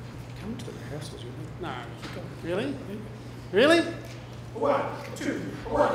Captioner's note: whispers